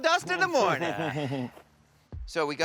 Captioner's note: chuckles